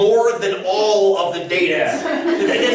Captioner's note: laughter